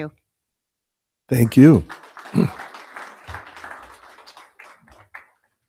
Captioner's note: audience applauding